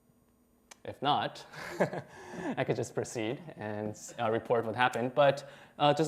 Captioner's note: laughter